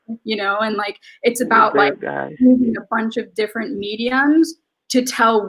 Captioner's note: speaks faintly